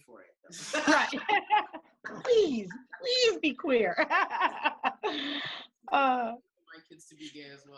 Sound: laughing

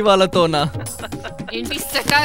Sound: laughs; Sudheer still laughing

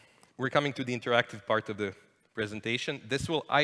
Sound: none

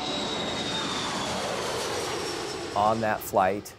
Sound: jet plane taking off

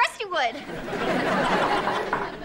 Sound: wooden knock

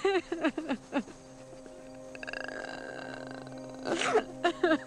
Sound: melancholy music; hiccups, sobs

